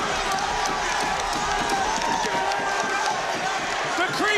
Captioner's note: audience cheering